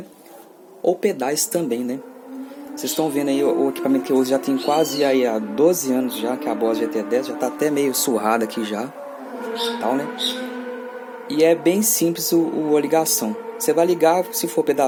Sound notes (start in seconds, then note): 1.8 motorcycles making noise